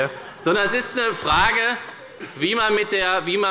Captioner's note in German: Heiterkeit bei der FDP